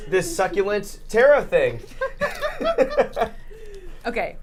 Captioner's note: muffled laugh